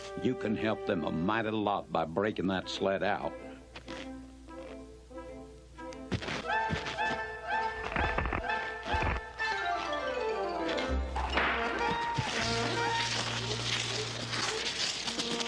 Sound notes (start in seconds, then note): 4.8 bright orchestral music; 6.3 footsteps crunching; 7.6 ice crackling; 11.2 whip cracks; 11.5 rudders scraping